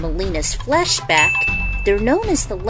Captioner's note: ding